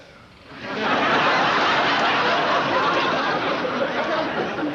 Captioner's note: audience laughing